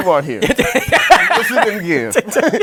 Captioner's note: laughter